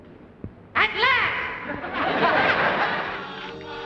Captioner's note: laughter